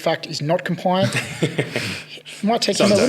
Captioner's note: all chuckle